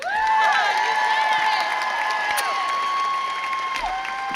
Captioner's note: crowd cheers